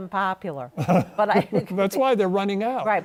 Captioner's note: chuckles